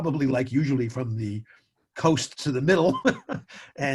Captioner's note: chuckles